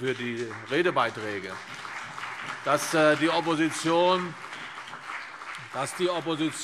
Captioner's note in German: Beifall CDU und BÜNDNIS 90/DIE GRÜNEN